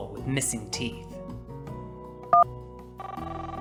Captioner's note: phone ringing